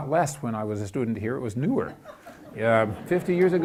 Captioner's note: audience laughs